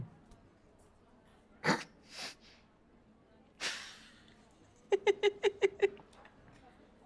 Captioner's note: laughs